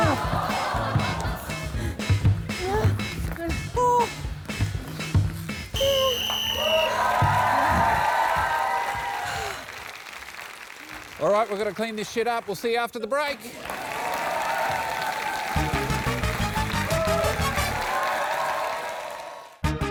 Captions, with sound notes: (TOM BLOWS WHISTLE) (CHEERING AND APPLAUSE) All right, we've gotta clean this shit up. We'll see you after the break.